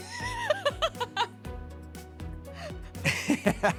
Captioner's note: laughing